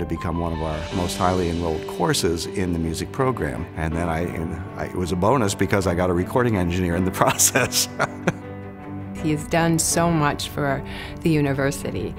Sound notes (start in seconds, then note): 7.4 laughs